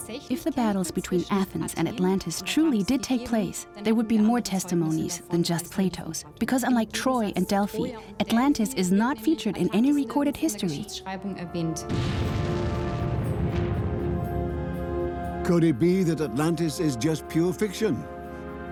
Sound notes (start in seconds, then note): 11.9 blasting sound